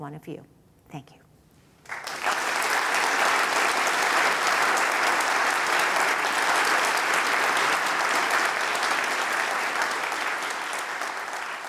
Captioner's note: applause